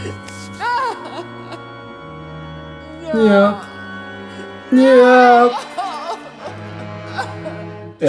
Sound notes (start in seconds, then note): 2.7 sobs